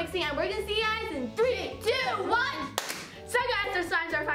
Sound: claps

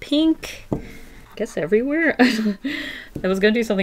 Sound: laughs

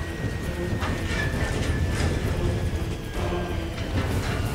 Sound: thuds; plane shaking

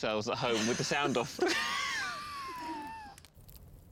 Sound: laughing

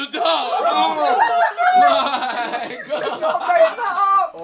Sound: all laughing

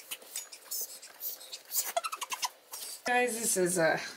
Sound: giggles

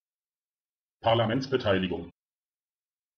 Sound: fast Pronunciation

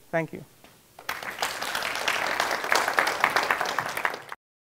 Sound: audience applauding

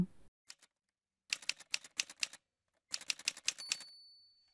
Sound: typewriter sounds

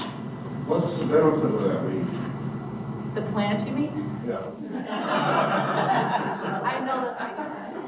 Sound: audience laughing

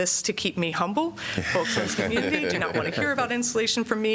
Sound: laughter

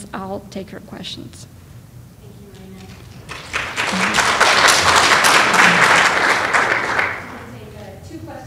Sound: clapping

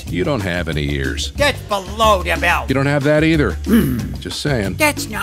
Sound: growls

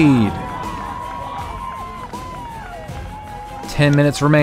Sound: crowd cheers

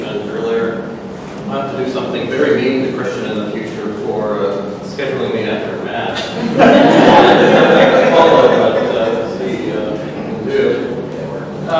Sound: laughter from crowd

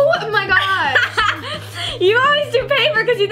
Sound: laughs

